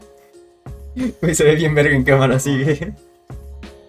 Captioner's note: chuckles in Qatar champion